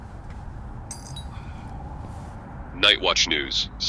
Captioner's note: doorbell ringing